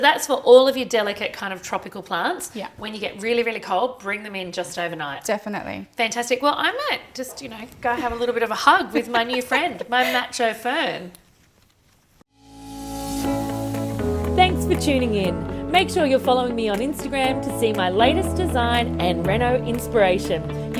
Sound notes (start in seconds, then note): 7.9 laughing; 12.4 upbeat music